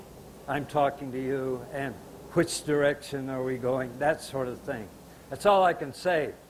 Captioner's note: signing while speaking